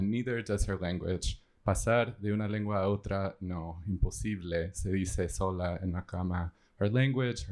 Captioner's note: speaking spanish